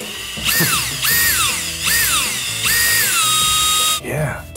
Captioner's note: drill whirring